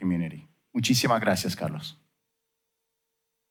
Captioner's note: foreign language